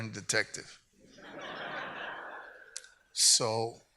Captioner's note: audience laughs